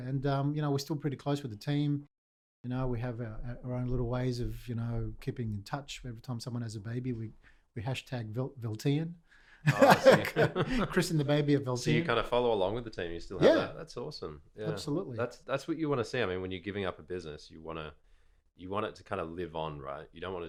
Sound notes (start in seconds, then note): 9.6 both laughing